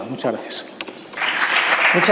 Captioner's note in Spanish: Aplausos